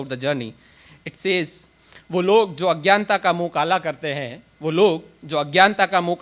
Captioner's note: speaks in foreign language